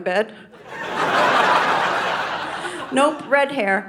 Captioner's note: audience laughing